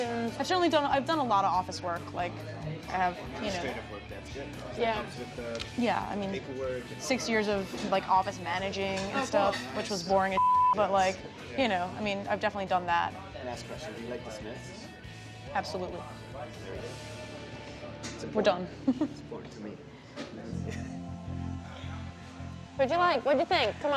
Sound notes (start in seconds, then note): 20.5 laughs